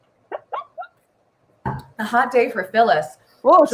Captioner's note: laughs